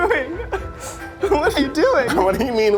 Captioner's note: laughs